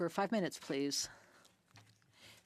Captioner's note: speaking French